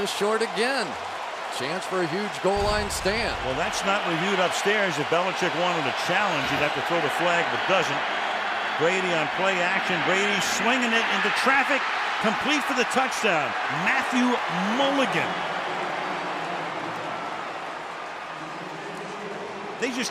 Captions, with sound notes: And I think just short again. Chance for a huge goal line stand. Well, that's not reviewed upstairs. If Belichick wanted a challenge, you'd have to throw the flag, but doesn't. Brady on play-action Brady swinging it into traffic. Complete for the touchdown, Matthew Mulligan! [cheering] [pa announcement]